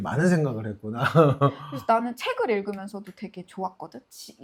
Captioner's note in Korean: 웃음